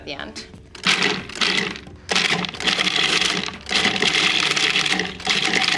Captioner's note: food processor chops